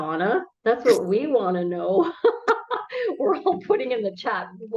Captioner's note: laughs